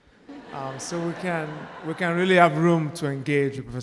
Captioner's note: audience laughing